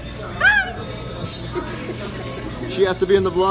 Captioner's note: laughing